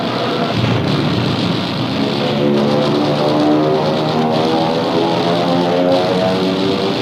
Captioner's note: guns firing